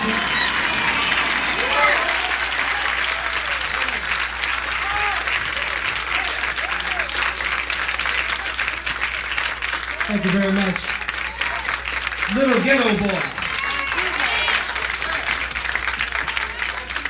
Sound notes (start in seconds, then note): 14.0 applause